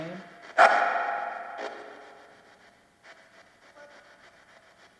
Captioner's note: static crackles